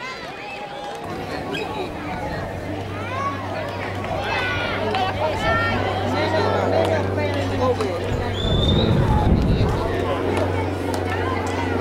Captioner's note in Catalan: Renou ambient i avió